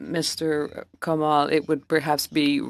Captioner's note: speaking French